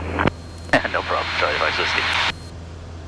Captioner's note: laughing